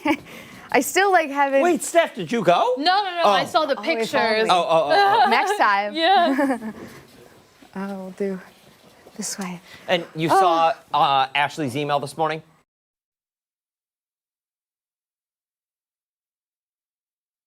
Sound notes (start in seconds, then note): 4.6 laughter